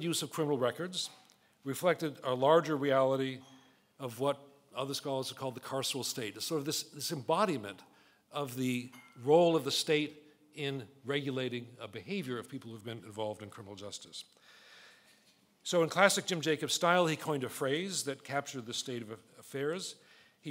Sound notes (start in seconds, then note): none